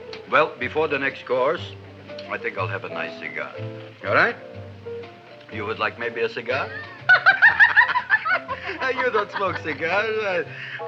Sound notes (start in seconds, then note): 6.6 Gravis laughs; 6.6 Audrey laughs